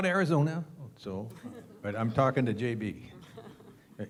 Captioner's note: laugh